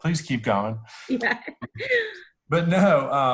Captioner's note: laughs